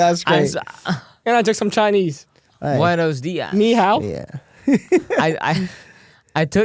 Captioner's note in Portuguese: risos